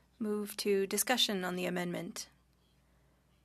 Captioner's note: speaking French